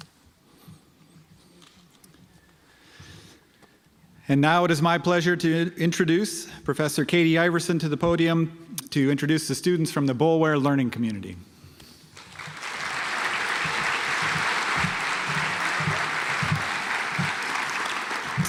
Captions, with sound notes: And now it is my pleasure to introduce professor Katie Iverson to the podium to introduce the students from the Boulware learning community. (audience applauds)